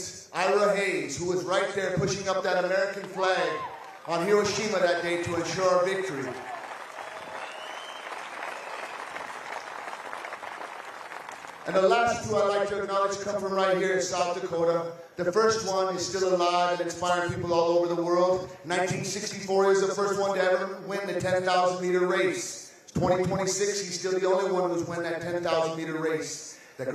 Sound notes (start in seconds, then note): 10.9 applause